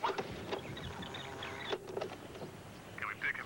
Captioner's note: rewinds tape